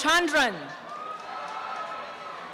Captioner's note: applause and cheering